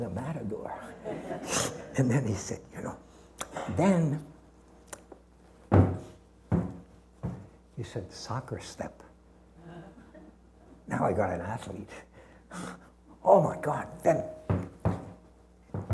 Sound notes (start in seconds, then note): 5.6 stomping